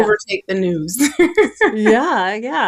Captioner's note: laughing